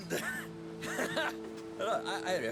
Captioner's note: laughs